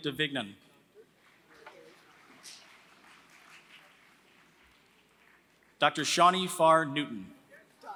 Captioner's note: applause; applause